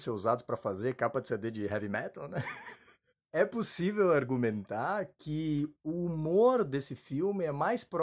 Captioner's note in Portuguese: Risos